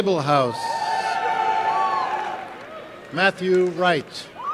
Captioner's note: applause and cheering